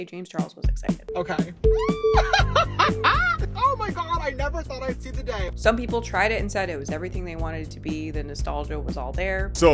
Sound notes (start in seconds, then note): 2.2 laughing